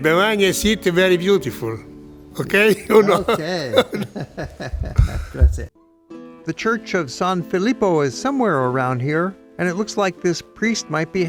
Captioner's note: laughs